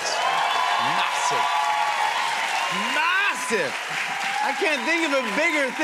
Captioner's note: cheers and applause